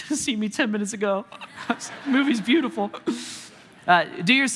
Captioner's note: congregation laughing